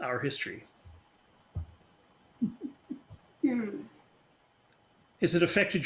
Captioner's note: laughing